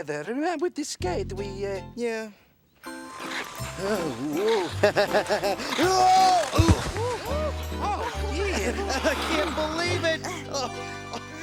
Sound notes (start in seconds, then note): 5.1 laughs; 5.8 screaming